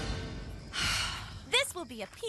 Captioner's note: Gwen Sighing